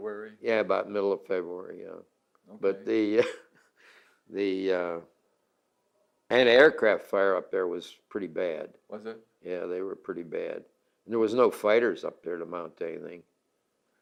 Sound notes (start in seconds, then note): 2.9 laughs